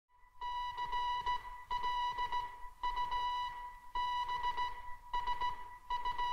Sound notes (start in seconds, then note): 0.4 ship receives morse code